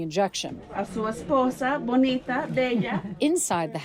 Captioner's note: doctor speaking in foreign language